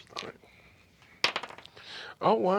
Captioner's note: rolls dice